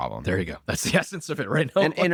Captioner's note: laughs